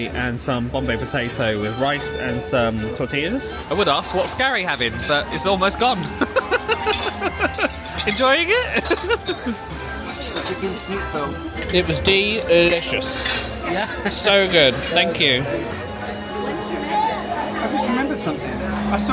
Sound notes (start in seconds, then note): 6.0 laughing; 9.5 laughing